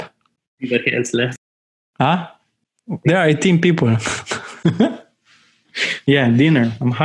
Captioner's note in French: rires